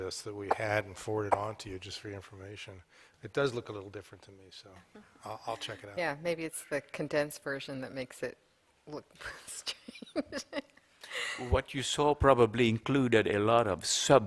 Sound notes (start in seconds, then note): 9.6 laughter